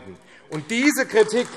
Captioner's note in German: Beifall AfD